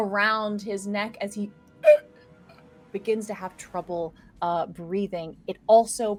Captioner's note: chokes